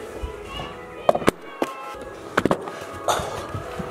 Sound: screaming

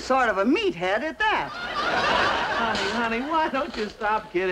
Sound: audience laughing

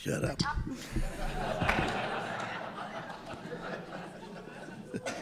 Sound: group laughing

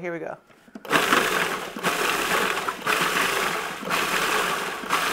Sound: processor grinding

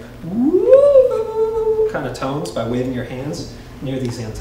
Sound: mimicking tones

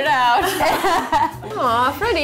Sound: laughing

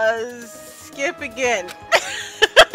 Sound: laughs

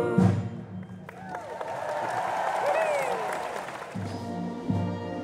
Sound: audience applauds

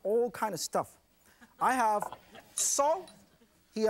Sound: audience chuckles

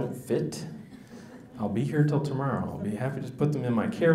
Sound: audience laughs

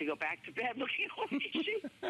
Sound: laughter

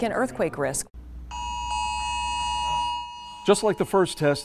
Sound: cell phone alarms sounding

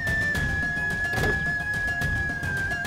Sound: car door opens

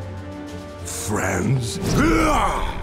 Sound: grunting

